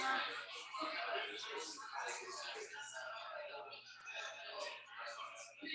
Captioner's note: people chattering indistinctly